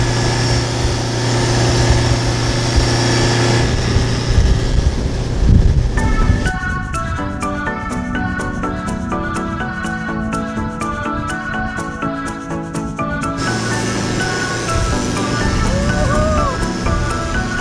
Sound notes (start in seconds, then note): 6.4 mid-tempo chill music; 13.4 engine buzzing